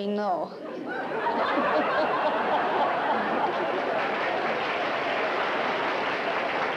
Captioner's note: laughter